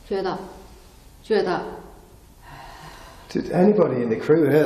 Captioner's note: exhales